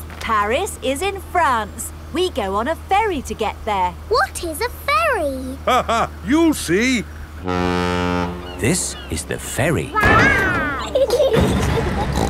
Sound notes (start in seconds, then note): 5.4 laughing; 7.3 ferry horn blows; 9.9 giggling; 11.8 snorts